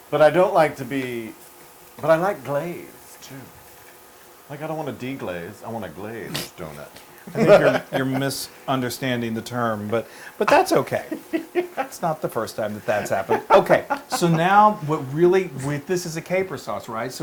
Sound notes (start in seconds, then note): 7.2 laugh